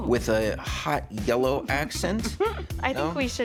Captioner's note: laughs